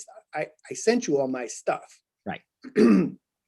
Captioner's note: clears throat